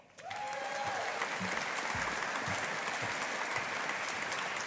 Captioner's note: audience applauding